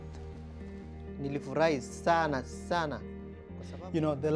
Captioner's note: speaks in Swahili